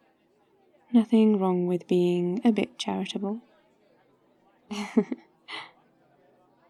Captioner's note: laughs